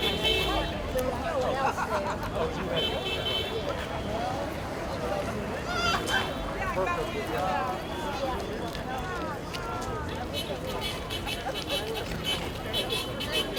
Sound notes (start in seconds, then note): 2.7 horn honking